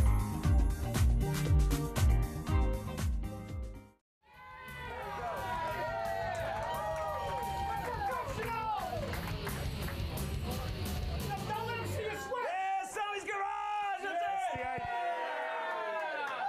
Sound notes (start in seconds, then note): 3.1 disco music; 11.2 upbeat rock music; 12.0 audience cheering